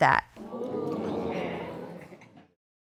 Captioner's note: audience exclaiming